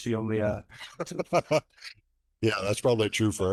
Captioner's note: laughing